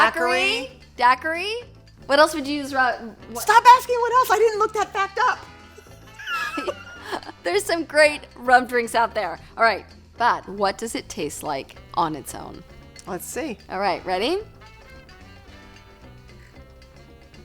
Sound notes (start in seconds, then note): 5.7 laughs